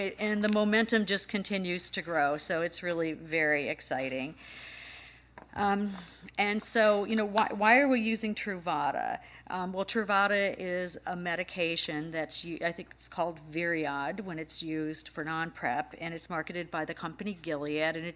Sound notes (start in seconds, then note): none